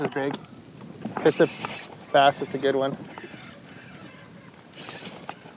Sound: reel squeaking

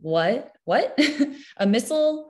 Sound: chuckles

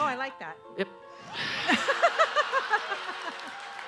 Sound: laughing

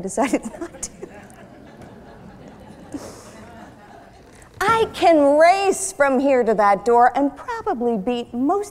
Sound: laughter

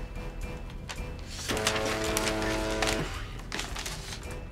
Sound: fax machine buzzes loudly

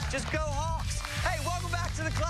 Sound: cheers and applause

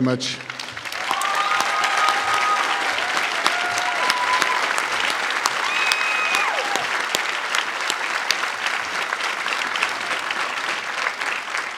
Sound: applause

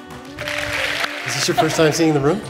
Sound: applause

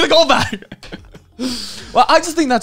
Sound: laughing

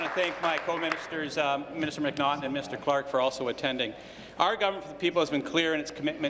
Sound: applause

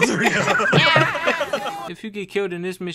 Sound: laughter

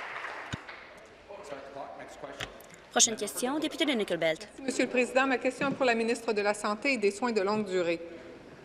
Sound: applause

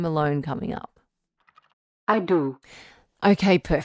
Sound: background SFX: Keyboard typing

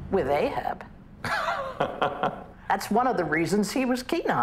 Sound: laughs

